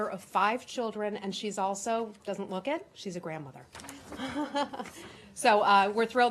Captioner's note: laughter